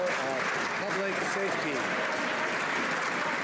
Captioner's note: some Applause